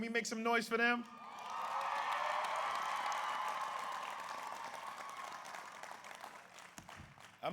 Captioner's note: audience applauds; audience cheers